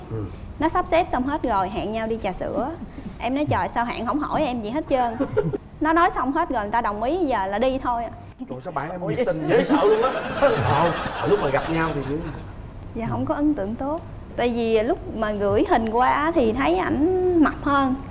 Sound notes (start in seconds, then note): 5.2 MCs laughing; 9.2 laughing